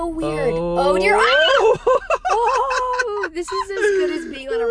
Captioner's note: both exclaiming and laughing